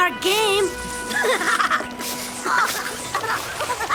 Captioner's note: all laughing